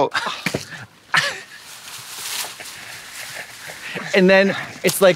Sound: paillettes rustle

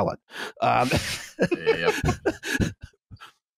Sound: laughs

